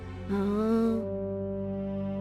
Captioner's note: bemused hum